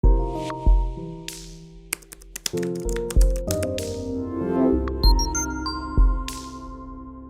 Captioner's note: typing on Keyboard; background Music